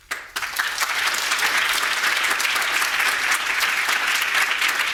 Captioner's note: audience applauding